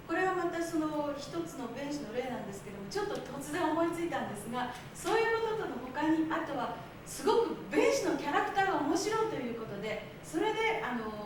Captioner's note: speaking Japanes